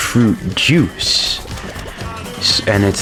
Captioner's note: inhales Oxygen